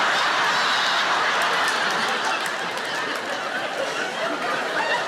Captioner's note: audience laughs